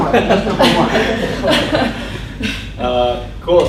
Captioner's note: voiceover